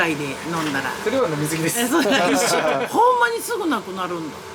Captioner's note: laughs